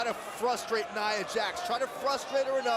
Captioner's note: crowd chatter